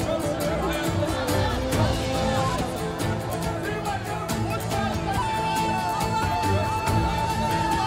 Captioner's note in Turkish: Kalabalık konuşma sesleri